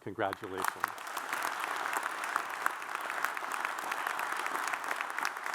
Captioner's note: audience applauds